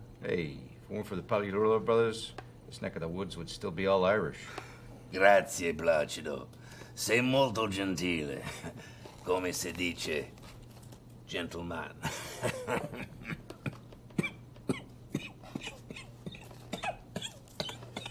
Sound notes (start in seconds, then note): 12.0 coughs; 12.0 laughs